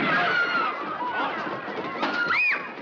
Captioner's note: screaming